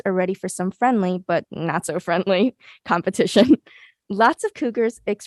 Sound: chuckles

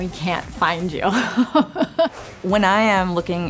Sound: laughs

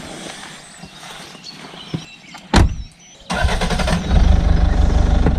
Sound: car sound

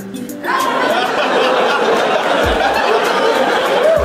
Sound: laughter

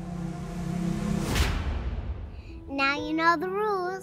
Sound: atmosphere whooshing

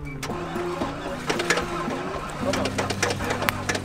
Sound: engine revving

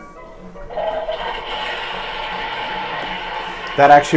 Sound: toilet flushing

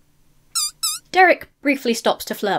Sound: duck squeaking

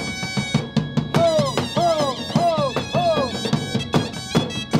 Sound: shouting

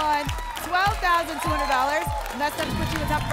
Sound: applause and cheering

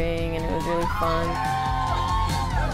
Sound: cheering

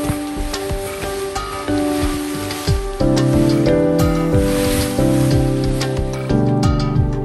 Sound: sound of the tent sliding

